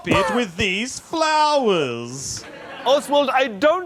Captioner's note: coughing